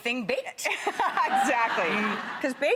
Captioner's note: laughs